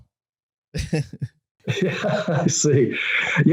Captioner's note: laughing